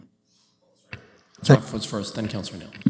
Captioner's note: audio drop